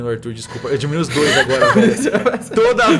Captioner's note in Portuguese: Risos